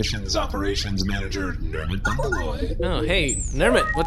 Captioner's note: transmission connection noise